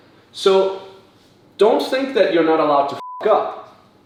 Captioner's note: beep